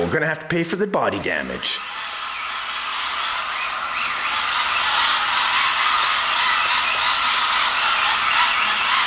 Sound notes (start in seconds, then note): 1.6 motor whirs loudly